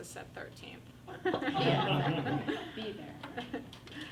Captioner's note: everyone laughs